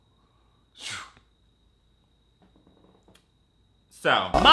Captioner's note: blows